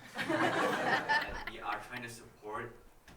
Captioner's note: audience applauding